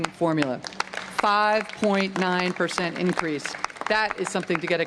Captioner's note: applause